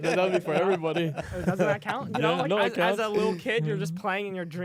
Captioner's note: laughs